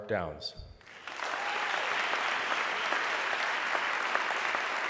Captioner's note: audience clapping